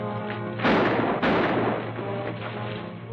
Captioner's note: firing